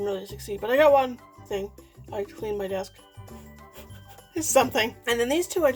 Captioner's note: laughing